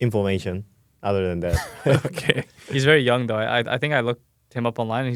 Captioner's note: laughs